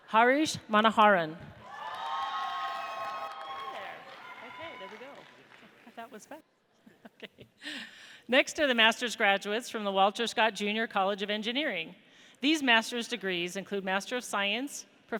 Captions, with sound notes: Harish Manoharan. (audience cheers) Okay, next are the Master's graduates from the Walter Scott, Jr. College of Engineering. These Master's degrees include Master of Science,